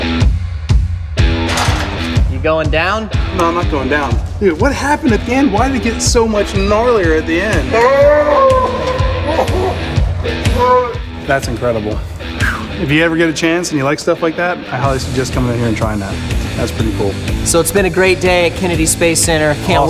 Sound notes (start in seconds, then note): 7.7 slowed down screams